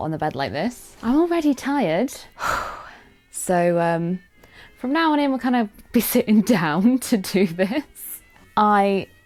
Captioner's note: phew